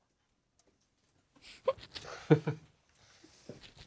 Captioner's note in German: schluchzt